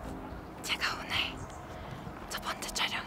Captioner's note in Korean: 속닥